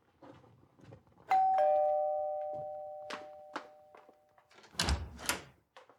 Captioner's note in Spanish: Timbre de la puerta